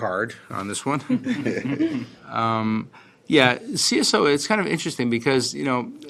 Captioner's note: laughter